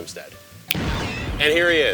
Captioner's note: whoosh